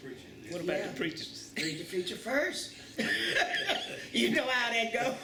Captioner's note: laughter